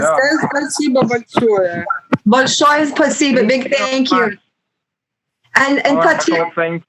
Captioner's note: speaking Russian